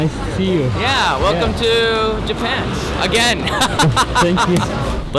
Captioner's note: laughing